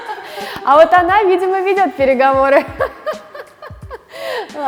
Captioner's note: laughing